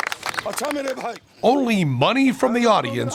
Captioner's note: non-english speech